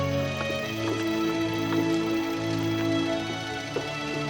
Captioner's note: engine idles